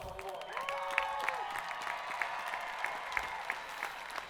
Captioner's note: audience applauding